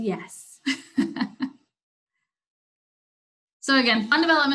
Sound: laughs

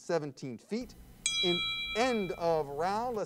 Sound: bell pings

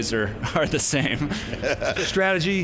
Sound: laughs

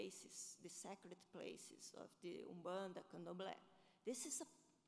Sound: foreign language

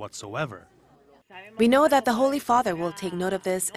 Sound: Spanish

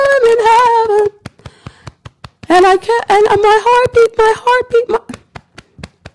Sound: beating Chest

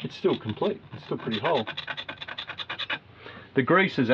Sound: scratching

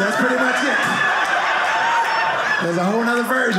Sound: audience laughing

